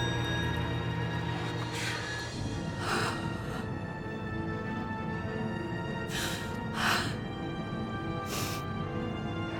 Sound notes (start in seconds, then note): 3.0 sobbing